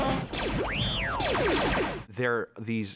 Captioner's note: chewbacca groaning; warbling excitedly